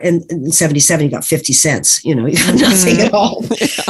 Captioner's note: laughs; gufaw